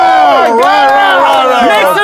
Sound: sound of cheering

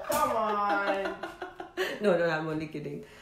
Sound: chuckling

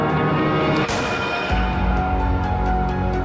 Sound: gunshot

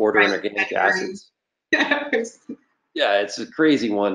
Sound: laughs

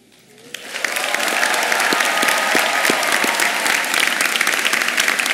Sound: applause

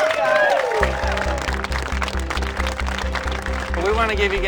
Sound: applause

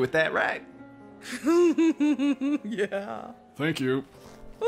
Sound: giggling

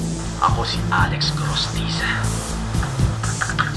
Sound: tense music plays; Alex over phone; typing on keyboard

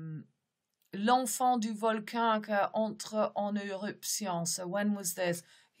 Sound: speaks in French

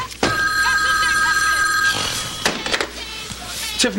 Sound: telephone rings

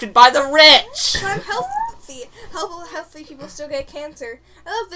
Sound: hiccups

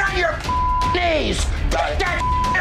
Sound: beeping

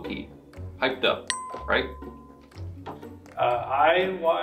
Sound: bell dings

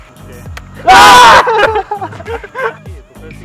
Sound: both screaming like little girls

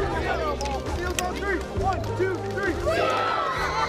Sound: kids yelling

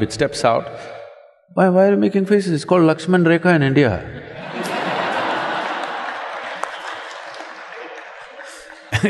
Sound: laughter

